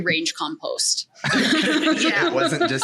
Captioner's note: all laugh